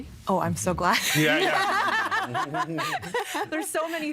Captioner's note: laughing